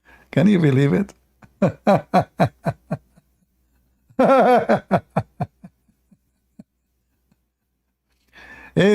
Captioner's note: Ketawa